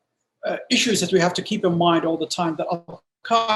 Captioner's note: distortion